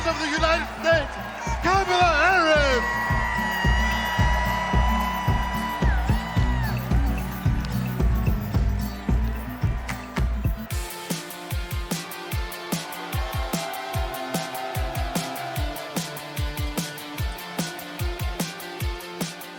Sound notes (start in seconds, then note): 5.0 cheers and applause